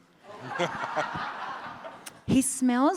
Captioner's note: audience laughs